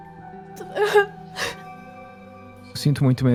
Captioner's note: crying